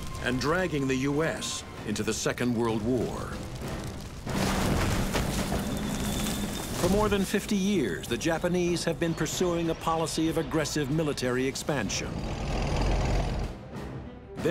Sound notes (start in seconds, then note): 4.2 trees thudding; 4.3 tank rumbling; 11.8 tank rumbling